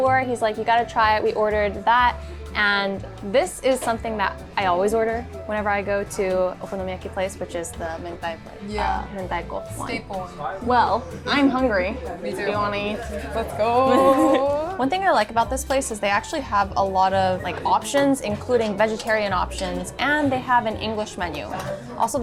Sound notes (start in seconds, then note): 7.9 speaking foreign language